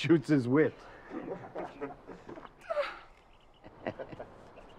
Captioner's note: crowd chuckles